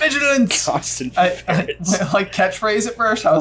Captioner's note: laughing